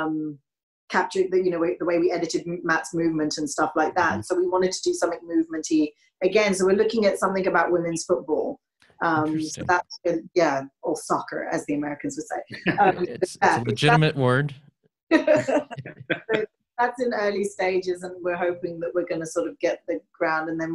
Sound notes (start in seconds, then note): 15.1 laughter